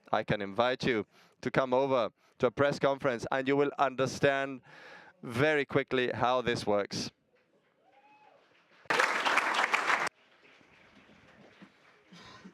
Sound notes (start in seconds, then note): 8.3 audience applauding